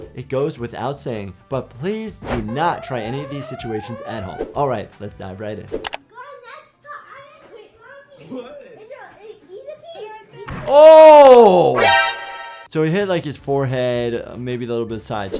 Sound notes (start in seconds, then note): 6.0 child talking in background; 10.2 smacks